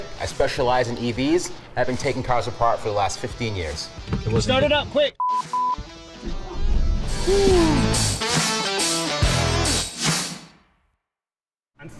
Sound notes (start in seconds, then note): 5.2 beep, beep; 6.8 engine roaring; 7.0 upbeat rock music